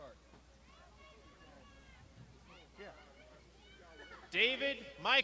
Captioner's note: crowd shouting